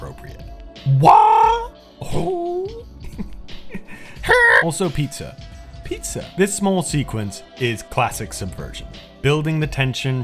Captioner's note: chuckling